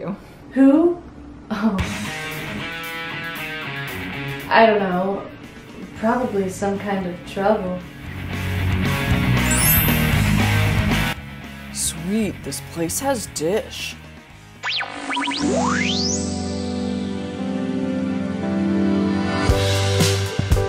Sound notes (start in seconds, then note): 1.8 rock music playing; 7.9 rock and roll music playing; 14.7 tv channel static